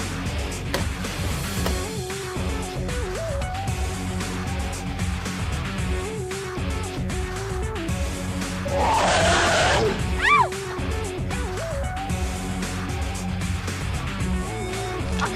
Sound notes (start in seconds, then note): 8.6 monster roar; 8.6 scream